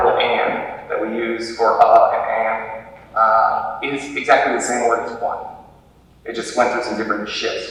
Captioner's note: normal voice